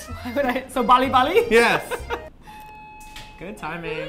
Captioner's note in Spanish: Suena el timbre